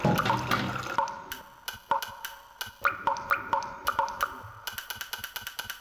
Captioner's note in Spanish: Pausa por un momento sólo con sonido de gotas